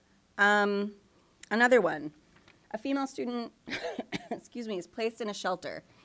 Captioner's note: coughs